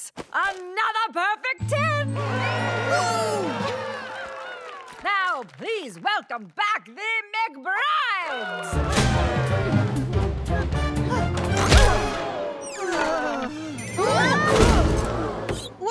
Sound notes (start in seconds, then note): 8.8 swing music playing; 11.9 both groan